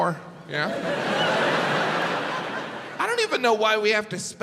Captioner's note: crowd laughs